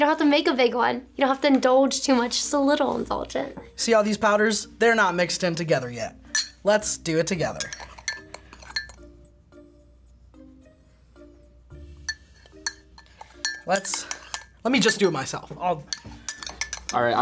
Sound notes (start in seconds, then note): none